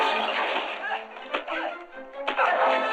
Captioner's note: groaning; grunting